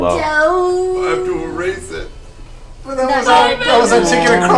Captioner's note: tearfully